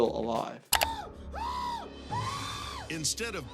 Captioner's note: man screaming